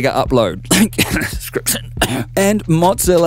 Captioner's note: cough